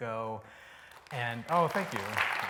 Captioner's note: applause